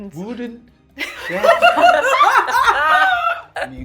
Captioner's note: laughing